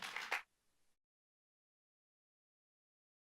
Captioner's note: applause